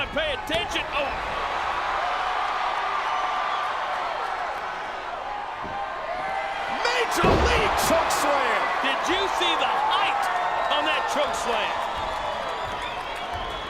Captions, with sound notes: and pay attention, oh. (audience cheering) Major league chokeslam. Did you see the height on that chokeslam?